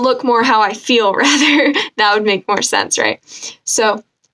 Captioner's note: laughing